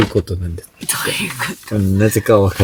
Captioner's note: laughs